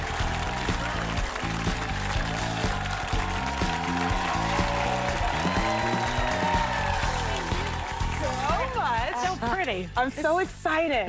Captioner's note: applause; cheers and applause